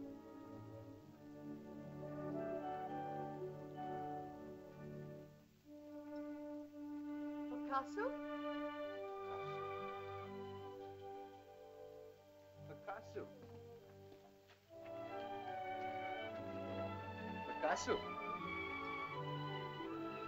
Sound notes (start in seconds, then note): 7.5 Loana says "Mother?" in caveman language; 10.4 soft music; 14.9 soft music; 20.0 sentimental music